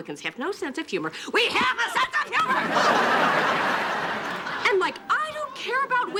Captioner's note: audience laughing